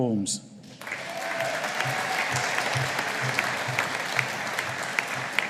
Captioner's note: audience applauding